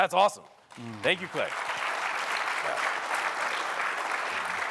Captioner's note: applause